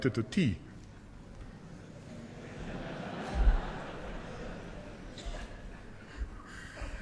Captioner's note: laughter